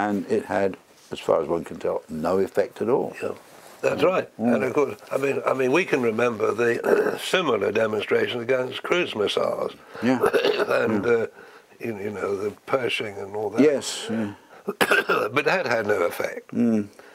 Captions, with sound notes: And it had, as far as one can tell, no effect at all. >> That's right. We can remember the similar demonstration against cruise missiles. [COUGH] And the Pershing and all that. >> Yes. >> [COUGH] But that had no effect.